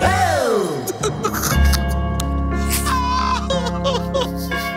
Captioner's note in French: rires